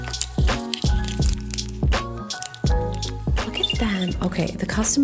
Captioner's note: gentle music; plastic crinkling